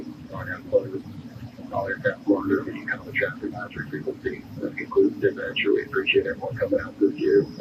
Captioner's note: radio